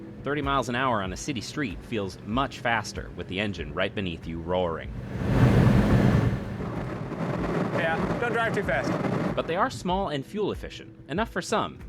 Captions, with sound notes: 30 miles an hour on a city street feels much faster with the engine right beneath you roaring. (engine roars) -Yeah, don't drive too fast. -But they are small and fuel efficient enough for some.